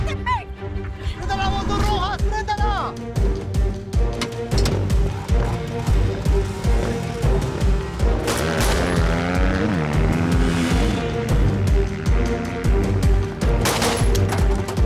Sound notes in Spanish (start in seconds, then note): 8.2 Disparos; 12.6 Disparos